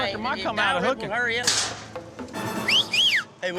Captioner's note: gate clanging open; whistles